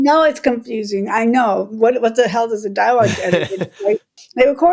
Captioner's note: laughter